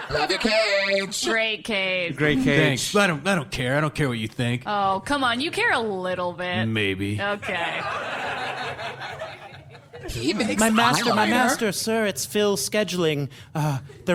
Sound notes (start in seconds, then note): 7.4 audience laughter